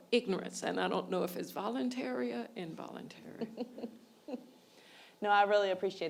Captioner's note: laughs